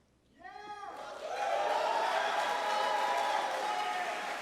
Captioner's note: applause